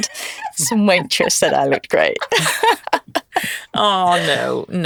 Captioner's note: laughs